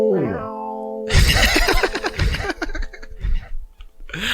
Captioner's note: laughs